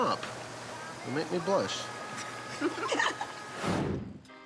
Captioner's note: all laugh